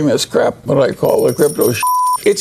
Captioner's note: beep